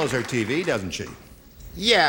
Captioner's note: applause